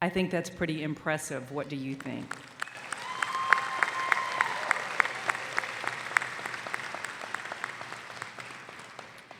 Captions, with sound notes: I think that's pretty impressive, what do you think? (audience applauding)